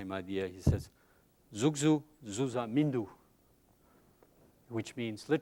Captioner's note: speaking tibetan